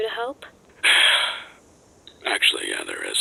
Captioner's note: sigh